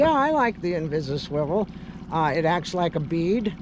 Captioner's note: fish splashing